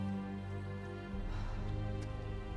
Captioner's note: sigh